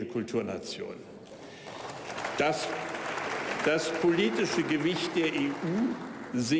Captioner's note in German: Beifall bei der AfD